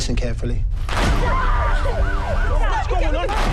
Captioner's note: sirens wail